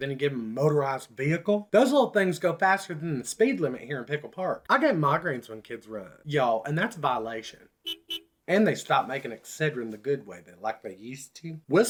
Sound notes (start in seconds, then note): 7.8 beep beep